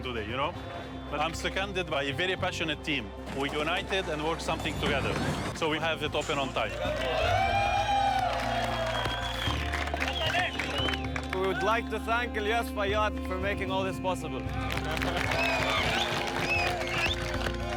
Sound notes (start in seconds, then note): 6.1 cheers and applause; 14.4 cheers and applause